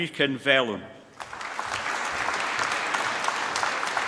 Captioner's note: applause